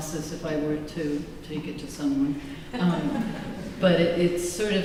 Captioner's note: laughter